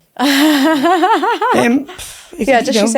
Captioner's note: chuckles